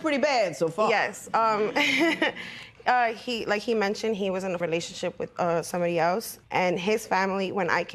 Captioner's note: laughs